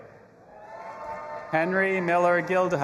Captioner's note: audience applauding and cheering